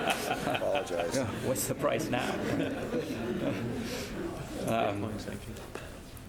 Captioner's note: laugh